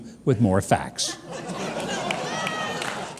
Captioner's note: audience laughing